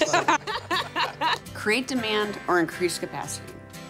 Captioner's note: laughter